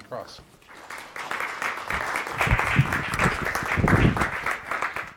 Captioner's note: applause